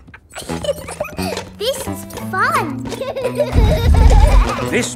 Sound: giggles

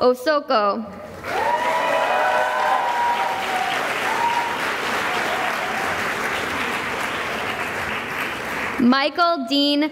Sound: cheering and applause

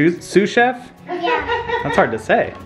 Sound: laughs

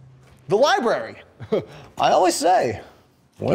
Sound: chuckle

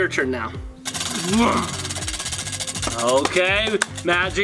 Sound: wheel spinning

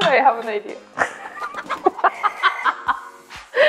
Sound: laughs

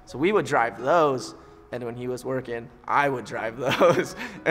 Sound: laughing

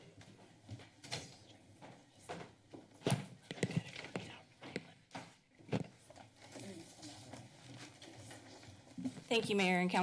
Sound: background conversations

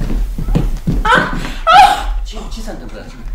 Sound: the woman screams

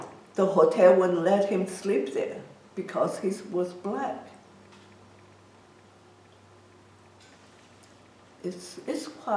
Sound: long pause

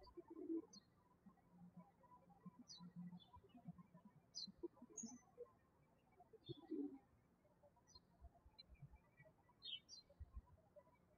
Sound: birds chirping

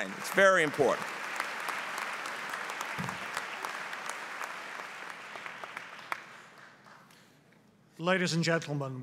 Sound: applause

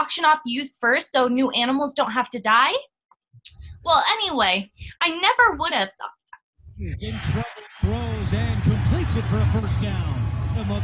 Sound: sound of football game

